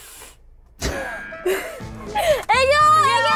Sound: breathing in; laughs

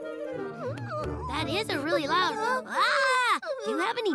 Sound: hollers

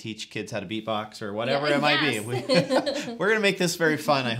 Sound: pleasant laughing

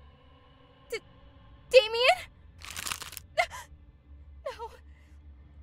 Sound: startled gasp

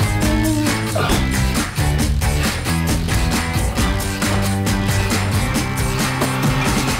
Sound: upbeat music; grunts

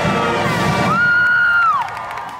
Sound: applause

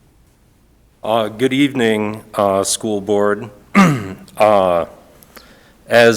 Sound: clears throat

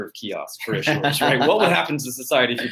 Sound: laughter

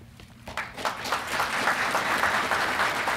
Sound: applause

